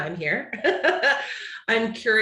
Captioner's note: chuckles